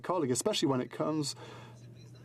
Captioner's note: speaking in french